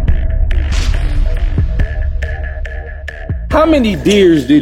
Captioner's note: upbeat music; dunk sound